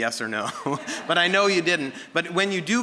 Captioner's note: audience laughing